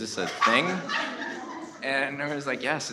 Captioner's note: audience laughs